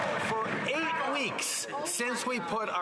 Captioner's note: some Applause